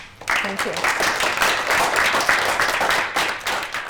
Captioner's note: applause